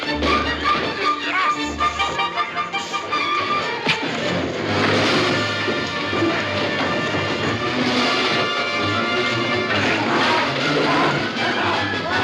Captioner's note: PEOPLE LAUGHlNG